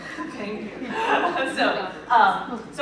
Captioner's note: laughing